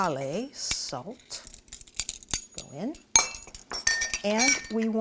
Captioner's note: measuring spoons clanking